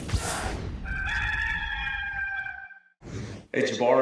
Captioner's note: rooster crowing